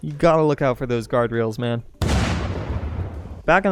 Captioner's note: explosion